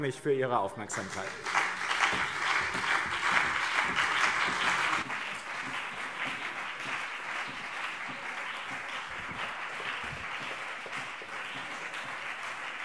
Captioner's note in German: Anhaltender Beifall BÜNDNIS 90/DIE GRÜNEN und CDU